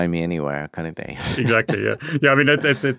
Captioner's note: laughs